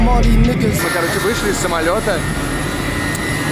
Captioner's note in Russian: шум самолетов